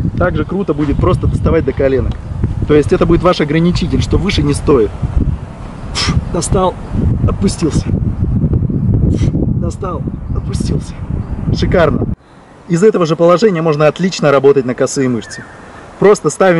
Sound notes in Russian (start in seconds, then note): 5.9 звук выдоха